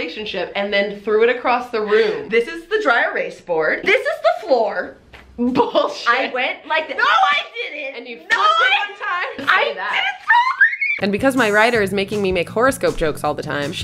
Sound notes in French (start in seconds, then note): 10.0 cri aigu